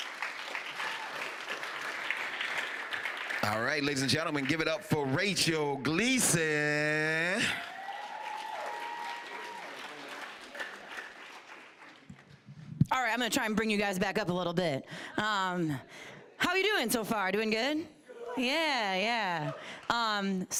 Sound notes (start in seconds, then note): 0.0 applause; 7.2 applause, cheering